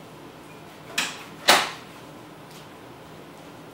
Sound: sounds of door closing

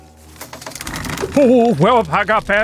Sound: curtain drawing

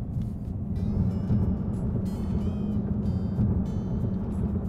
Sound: wind whirling

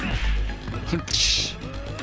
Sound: imitiates sound effect

